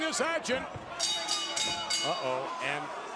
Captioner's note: bell dings